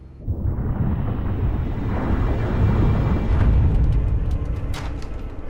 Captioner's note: rumbling